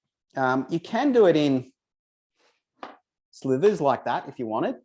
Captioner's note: knife thuds